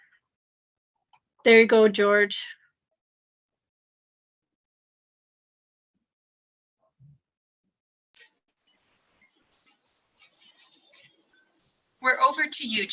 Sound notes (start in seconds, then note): 8.6 silence